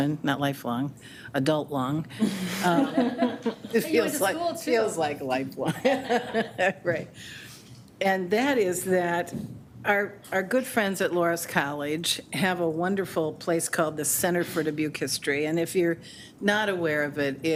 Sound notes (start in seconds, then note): 2.2 board members laughing